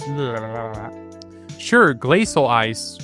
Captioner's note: toungue noises